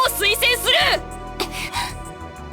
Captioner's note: gasp